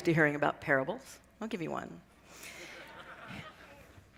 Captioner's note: laughter